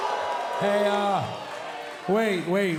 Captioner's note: cheers & boos